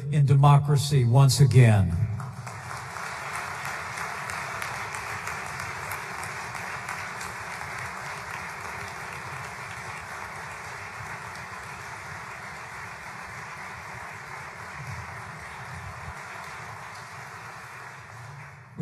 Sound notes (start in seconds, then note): 1.8 applause